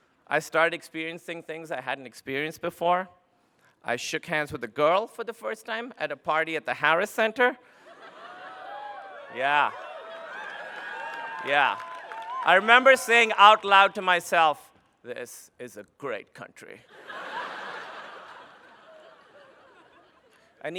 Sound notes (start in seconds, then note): 8.0 cheering